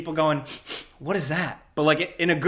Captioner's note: sniffs